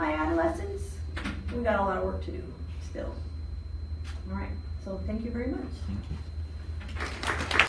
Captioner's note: applause